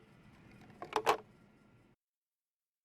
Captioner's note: click